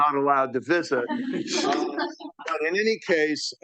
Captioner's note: audience laughing